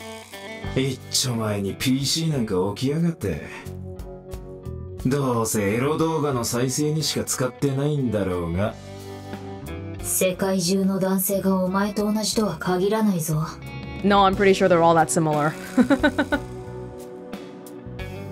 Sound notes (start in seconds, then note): 15.6 chuckles